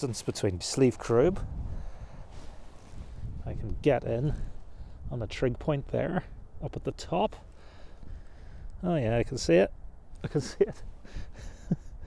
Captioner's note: laughing